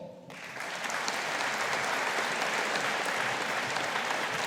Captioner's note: audience applauding